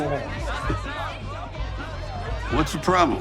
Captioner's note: patrons chatting